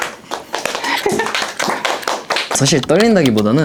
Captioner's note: applause